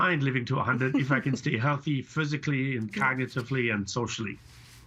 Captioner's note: laughter